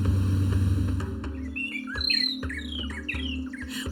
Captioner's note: birds chirping